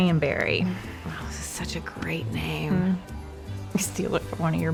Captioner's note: says sarcastically